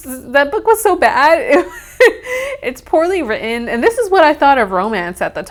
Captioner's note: laughs